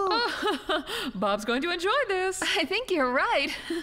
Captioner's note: laughing